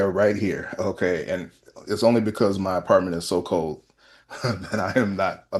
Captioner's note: laughter